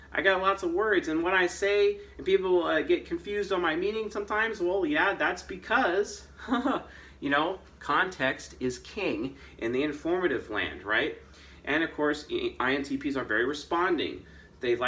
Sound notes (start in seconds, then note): 6.2 chuckles